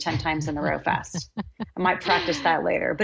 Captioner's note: laughing